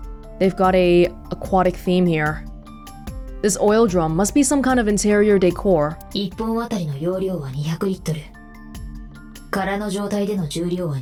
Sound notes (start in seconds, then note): none